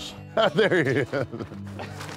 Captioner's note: laugh